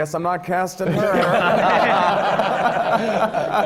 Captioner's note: laughter